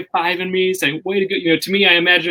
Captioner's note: murmurs